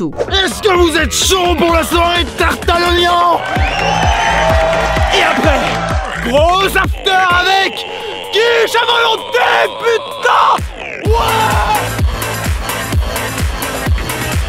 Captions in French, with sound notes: Est-ce que vous êtes chauds pour la soirée "TARTE À L'OIGNON !? *Acclamation de la foule* Et après, GROS AFTER AVEC... QUICHE A VOLONTÉ P*TAIN ! OUAIIIIIIS !